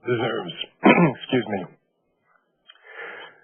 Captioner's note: clears throat